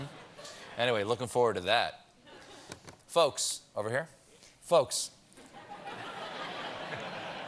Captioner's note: laughter